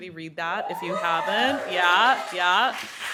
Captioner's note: audience cheering